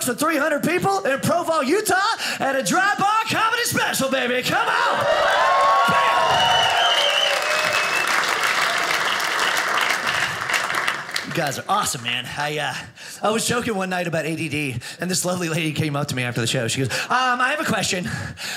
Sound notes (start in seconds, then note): 4.5 audience cheers; 6.9 audience laughing